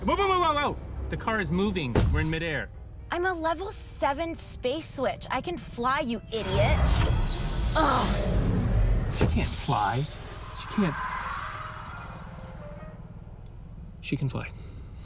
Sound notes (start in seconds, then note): 14.1 sighs